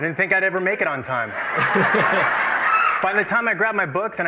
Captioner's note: laughter